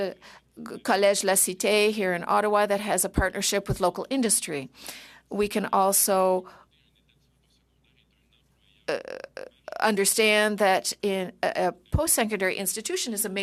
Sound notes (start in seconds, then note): 7.6 speaking French